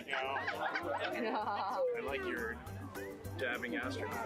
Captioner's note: laughter